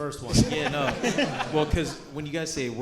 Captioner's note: audience laughing